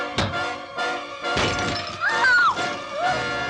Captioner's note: screams